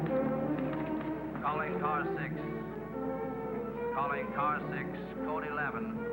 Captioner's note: man On Radio